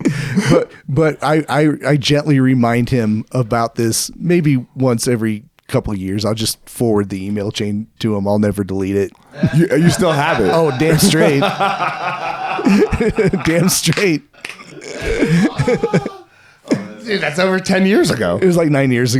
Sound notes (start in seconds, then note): 9.3 laughing